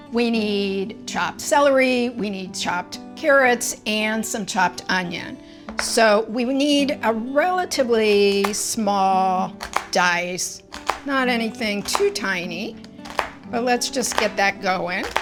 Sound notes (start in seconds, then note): 11.8 knife clacking